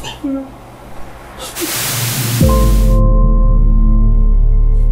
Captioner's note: static; sad music